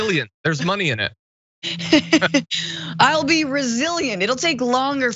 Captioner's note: laugh